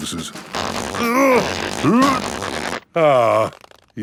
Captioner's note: grunting